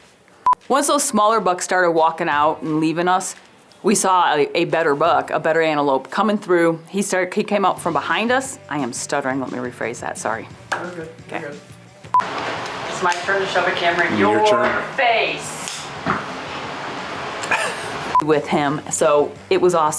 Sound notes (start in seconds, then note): 10.7 claps; 17.4 laughs